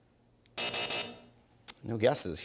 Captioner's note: buzzer